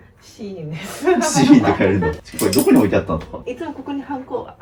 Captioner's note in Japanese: 笑い